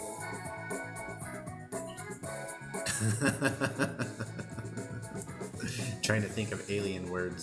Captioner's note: laughter